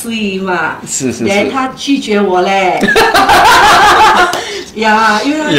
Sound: laughter

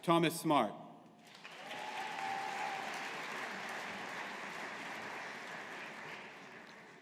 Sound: audience applauding

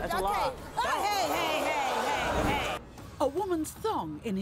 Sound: audience gasping

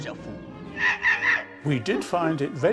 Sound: monkey screeches

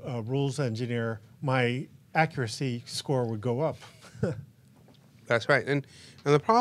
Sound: chuckles

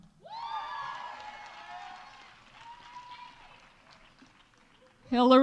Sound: audience cheering; audience applauding

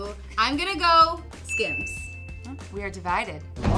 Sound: bell rings

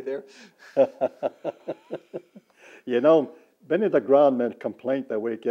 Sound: laughter

